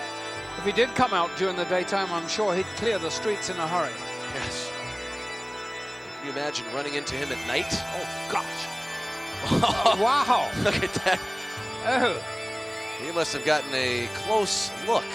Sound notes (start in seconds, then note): 9.4 laugh